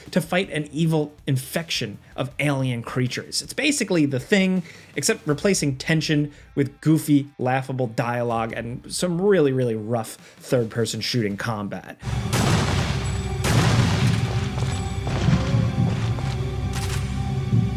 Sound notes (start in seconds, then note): 12.0 guns firing; 15.2 tense music